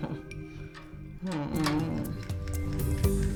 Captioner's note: groaning